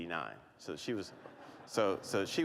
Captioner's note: laughter